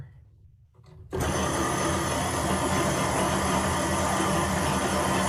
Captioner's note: motor loudly running